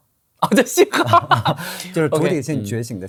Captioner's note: laughs